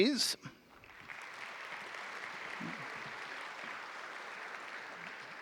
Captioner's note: audience applauding